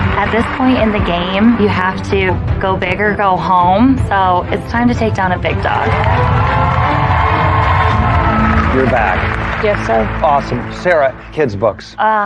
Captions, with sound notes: At this point in the game, you have to go big or go home so it's time to take down a big dog. (CHEERING AND APPLAUSE) -You're back. -Yes, sir. Awesome. Sarah - Kids' Books.